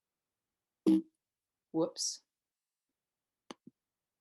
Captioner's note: computer error sounds